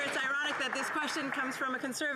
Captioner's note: applause